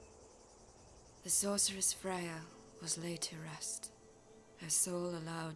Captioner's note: voiceover